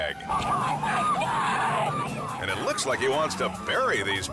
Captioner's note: kids screaming